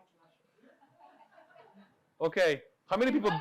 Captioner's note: audience laughing